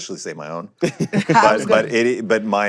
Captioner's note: laughter